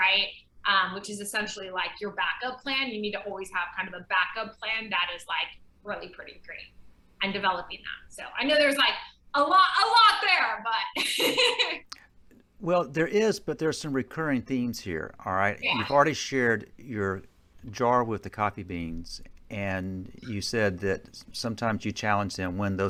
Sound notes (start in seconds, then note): 11.0 laughs